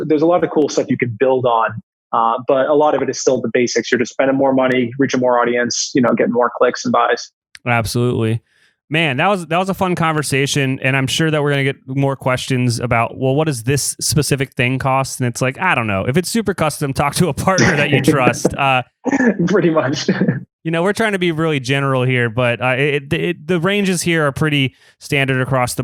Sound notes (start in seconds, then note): 17.5 laughs